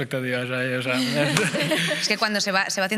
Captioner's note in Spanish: algunos ríen